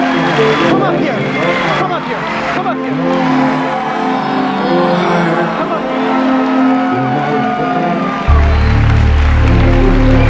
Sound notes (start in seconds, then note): 0.0 audience applauds; 3.3 audience applauds